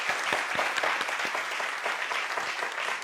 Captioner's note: applause